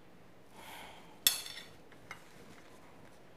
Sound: sighs

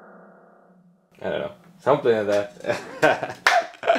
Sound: laughs; claps

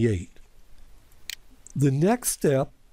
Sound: PowerPoint click

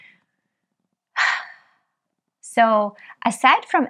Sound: Diana sighs

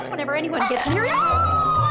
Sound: screaming

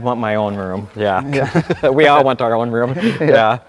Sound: laughter

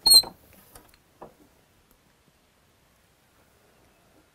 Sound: engraving tool squeaks

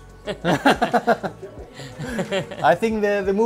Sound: men laughing

